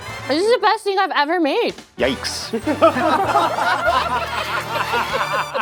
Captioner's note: all laughing